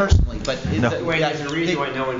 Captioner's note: laughter